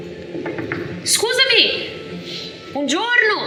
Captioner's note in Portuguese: toc toc